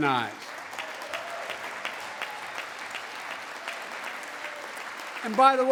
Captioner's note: applause